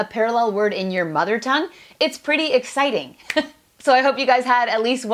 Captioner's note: chuckles